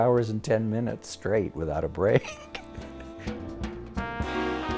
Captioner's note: laughs